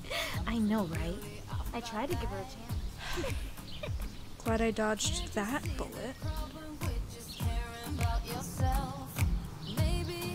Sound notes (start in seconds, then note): 0.0 giggles; 3.0 sighs; 3.0 giggles